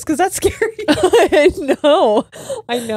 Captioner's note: all laughing